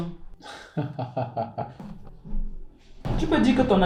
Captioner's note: laughs